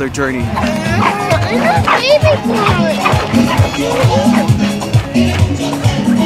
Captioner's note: upbeat music; kids chatter